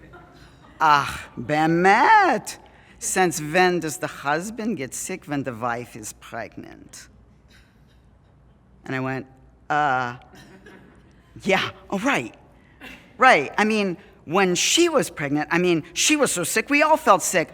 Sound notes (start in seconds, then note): 1.5 Hebrew